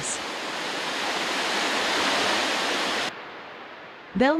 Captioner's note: water falls